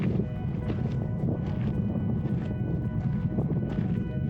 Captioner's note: wind blowing